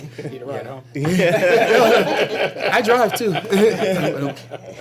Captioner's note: laughter